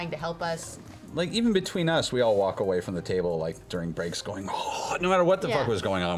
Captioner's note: gasps